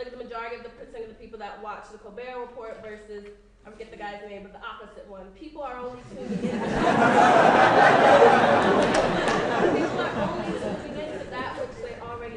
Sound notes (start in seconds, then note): 6.1 laughing